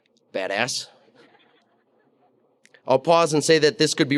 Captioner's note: audience laughing